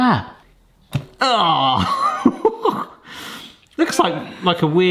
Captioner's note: laughing